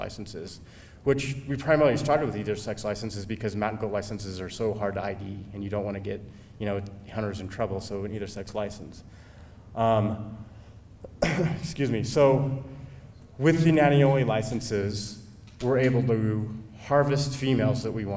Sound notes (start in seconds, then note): 11.0 clears throat